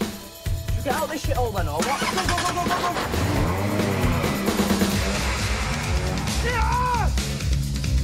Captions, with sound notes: - Shall we get out or what? - Go, go, go, go! [shouts]